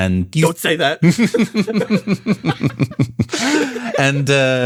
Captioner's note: laughs